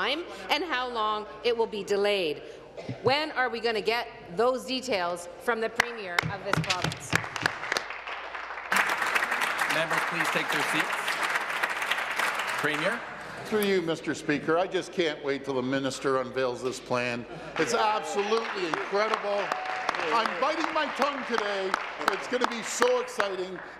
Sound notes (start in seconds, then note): 9.9 applause